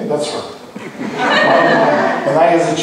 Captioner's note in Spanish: laughs